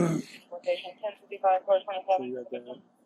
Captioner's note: radio chatter